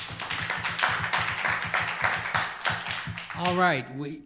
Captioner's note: applause